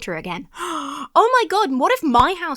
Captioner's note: gasps